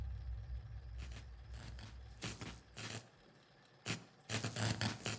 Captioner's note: light buzzing